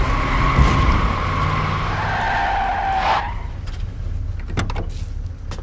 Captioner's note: whirring; tires screeching; car door opens